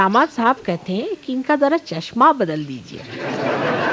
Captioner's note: laugh